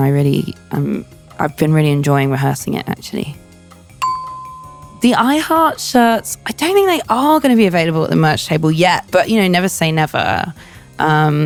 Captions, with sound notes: really, I've been really enjoying rehearsing it actually. (bell dings) The I Heart shirts, I don't think they are gonna be available at the merch table yet, but you know, never say never.